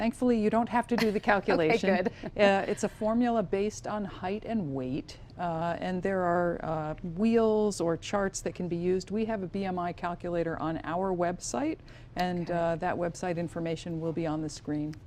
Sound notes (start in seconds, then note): 1.5 laughing